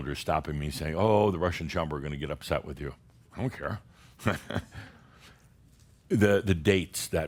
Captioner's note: Adamus chuckles